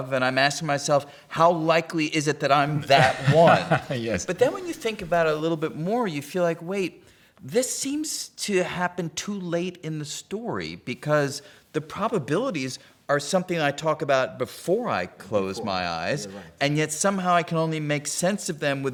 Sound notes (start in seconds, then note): 2.7 laughing